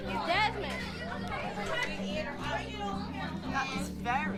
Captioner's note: children chatter excitedly